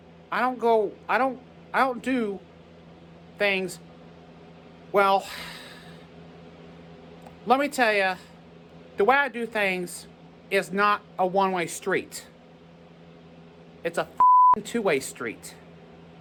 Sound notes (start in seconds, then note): 3.2 stammers